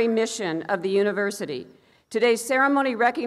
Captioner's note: none